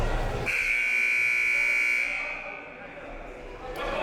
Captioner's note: buzzer